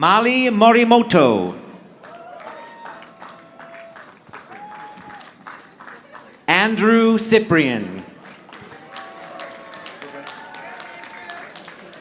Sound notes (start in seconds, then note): 2.0 audience applauding; 8.2 audience applauding